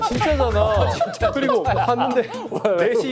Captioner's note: laughs